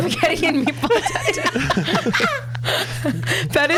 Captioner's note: laughs